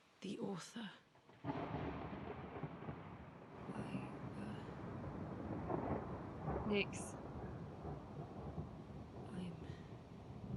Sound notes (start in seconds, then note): 1.3 thunder rumbles